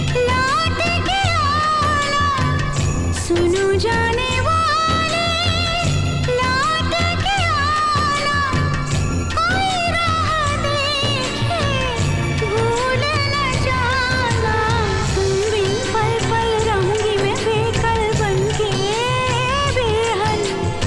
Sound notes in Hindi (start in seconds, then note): none